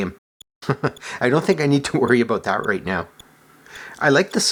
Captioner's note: chuckles